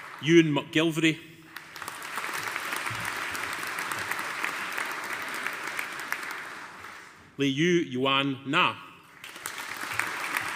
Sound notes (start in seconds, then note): 1.4 audience applauding